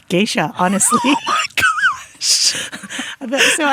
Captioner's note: laughs